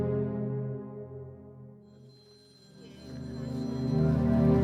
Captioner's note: phone rings